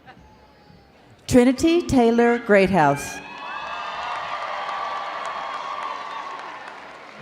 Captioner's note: crowd cheering